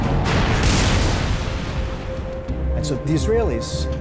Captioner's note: explosion booming